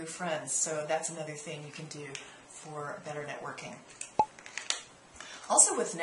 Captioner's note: pop